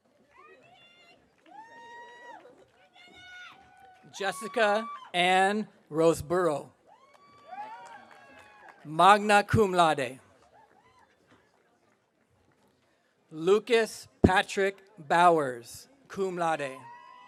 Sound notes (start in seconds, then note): 0.8 audience cheering